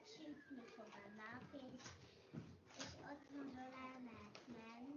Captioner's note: child's voice